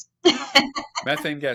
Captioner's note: laughing